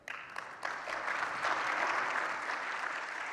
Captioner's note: applause